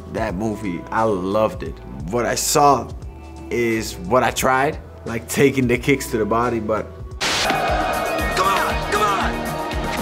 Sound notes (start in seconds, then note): 7.2 crowd cheers